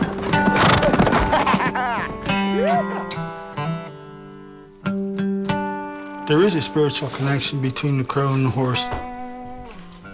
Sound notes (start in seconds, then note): 1.2 man laughing